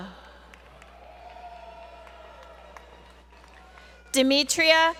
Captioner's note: applause